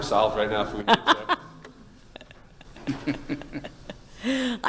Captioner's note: laughing